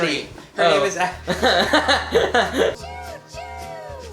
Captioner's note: laughs